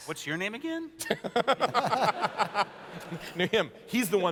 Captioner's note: laughter